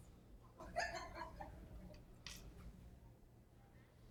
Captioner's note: woman giggling